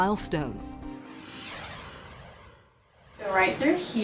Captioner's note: logo whooshing